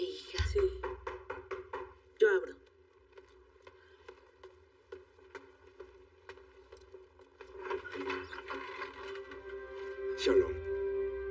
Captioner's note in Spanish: Llaman a la puerta